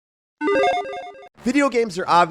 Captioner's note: electronic jingling